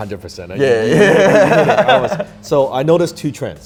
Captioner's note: they laugh